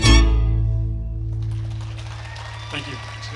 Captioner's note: attendees clapping and cheering